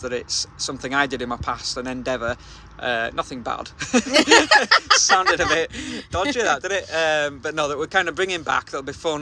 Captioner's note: laughing